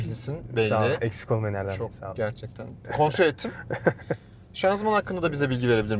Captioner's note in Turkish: kahkaha